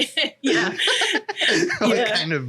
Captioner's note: laughs